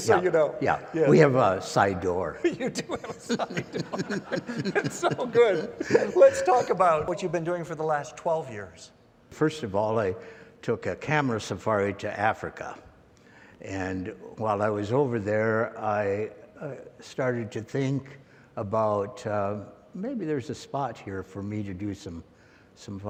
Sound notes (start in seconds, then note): 4.5 laughter